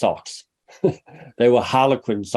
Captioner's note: chuckles